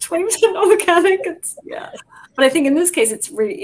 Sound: all laughing

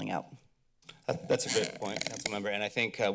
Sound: mic rustling

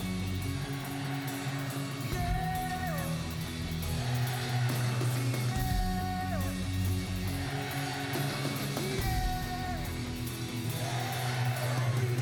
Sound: applause

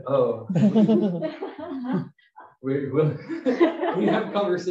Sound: laughter

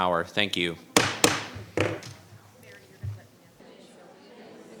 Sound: gavel banging

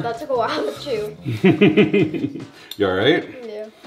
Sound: laughing

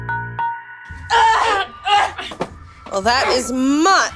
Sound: angry Vampiric struggling sounds

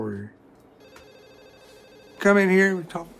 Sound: phone rings

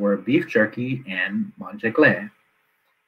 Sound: non-English speech

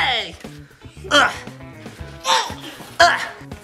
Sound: punching sound; grunting sounds

